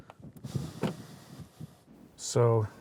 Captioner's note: door slams